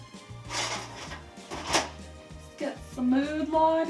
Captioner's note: rustling